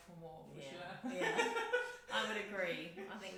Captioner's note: laughs